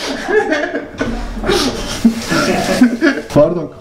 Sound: laughs

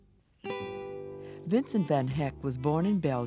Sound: voiceover

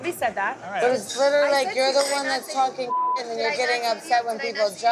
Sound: beep

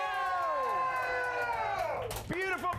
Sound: audience cheering

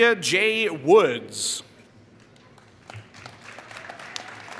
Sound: applause

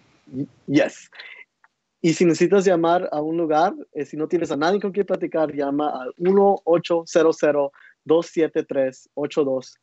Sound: speaking Spanish

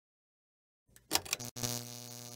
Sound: …Pull-chain click…; …Electronic buzzing…

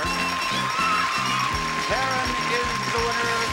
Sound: bell dinging

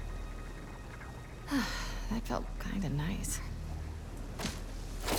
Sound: exhale

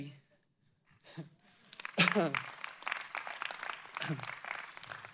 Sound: audience applauding

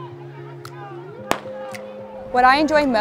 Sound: starter pistol pops

